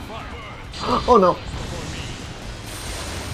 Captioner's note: gasps